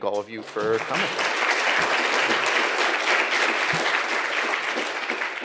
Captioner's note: audience applauds